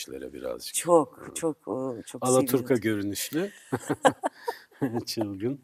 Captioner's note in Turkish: kahkaha